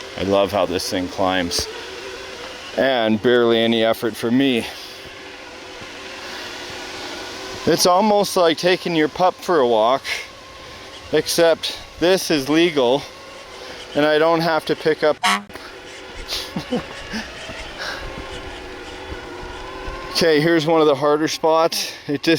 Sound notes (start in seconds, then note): 5.3 engine roaring; 15.0 honking; 15.6 man laughing